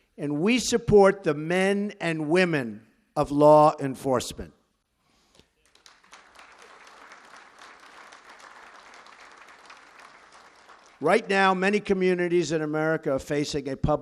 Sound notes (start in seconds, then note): 5.3 applause